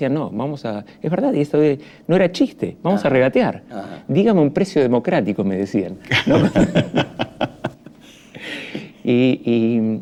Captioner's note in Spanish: risas